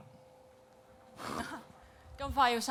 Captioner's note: laughs